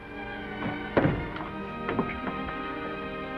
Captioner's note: door opens